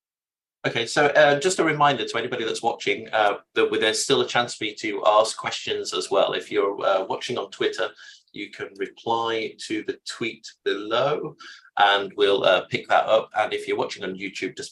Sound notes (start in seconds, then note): none